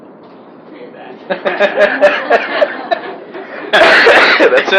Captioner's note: laughing